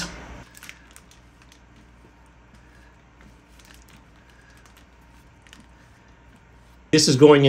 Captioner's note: silence